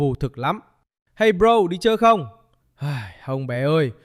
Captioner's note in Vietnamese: thở dài